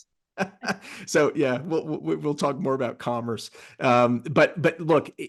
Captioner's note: laugh